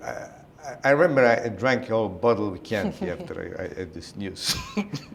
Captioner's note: chuckle